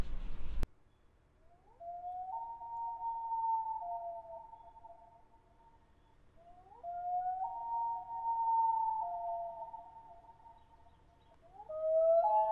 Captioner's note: loons calling to each other